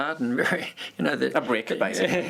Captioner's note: laughter